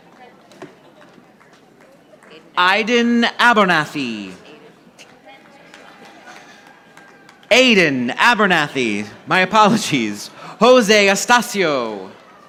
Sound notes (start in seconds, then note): 1.3 audience applauding; 5.4 audience applauding